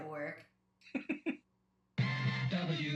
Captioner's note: laughs